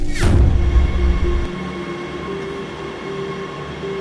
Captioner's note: train screeching